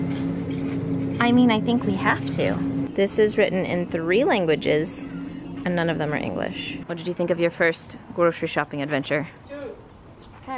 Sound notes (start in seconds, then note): none